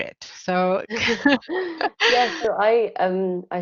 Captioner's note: all laughing